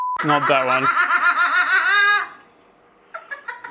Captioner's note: cackling